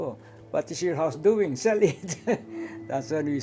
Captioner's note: laughs